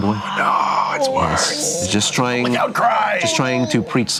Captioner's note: whispering